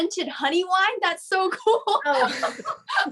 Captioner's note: laughs